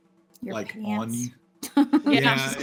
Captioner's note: laughs